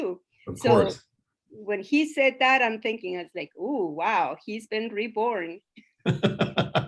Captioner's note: laughs